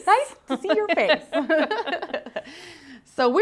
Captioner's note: laughing